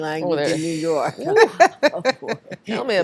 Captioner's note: all Laughing